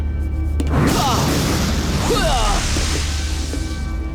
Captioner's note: grunting